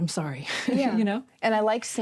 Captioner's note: chuckles